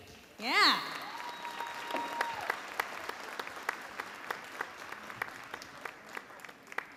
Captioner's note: audience applauding and cheering